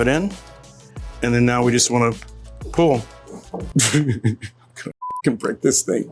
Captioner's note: laughs